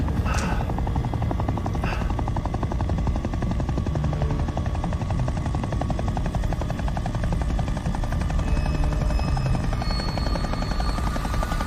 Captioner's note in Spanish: Sonido del motor de un helicóptero